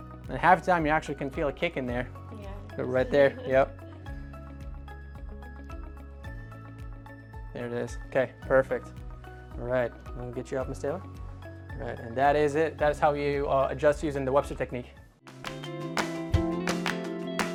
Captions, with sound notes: And half the time, you actually can feel a kick in there. - Yeah. (chuckles) - Right there. Yep. (gentle upbeat music) There it is. Okay, perfect. All right, let me get you up, Ms. Taylor. All right. And that is it. That is how you adjust using the Webster technique.